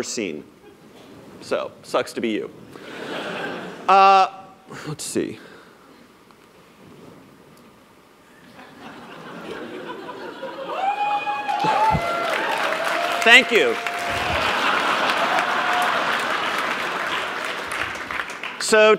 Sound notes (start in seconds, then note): 2.8 laughter; 8.4 laughter; 10.2 cheers; 14.2 laughter